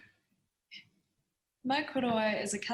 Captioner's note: speaking in Foreign Language